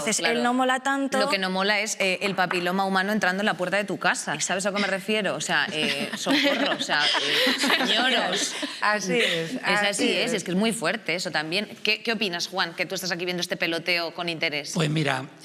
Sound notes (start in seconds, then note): 5.6 the others laugh